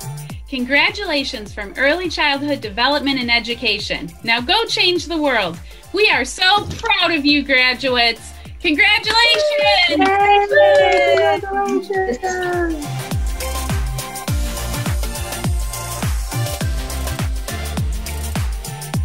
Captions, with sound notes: >> CONGRATULATIONS FROM EARLY CHILDHOOD DEVELOPMENT AND EDUCATION. NOW GO CHANGE THE WORLD. WE ARE SO PROUD OF YOU GRADUATES. CONGRATULATIONS! [ALL CHEERING]